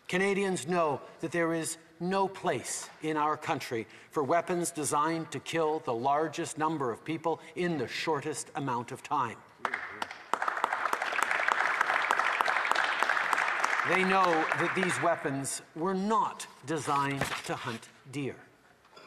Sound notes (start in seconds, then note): 9.6 applause